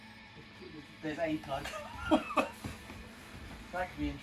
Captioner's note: laughs